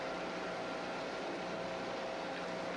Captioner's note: machine whirring